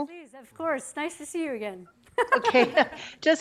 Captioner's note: laughing